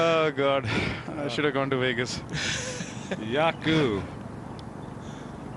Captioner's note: laughter